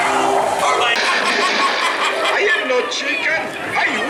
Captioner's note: laughing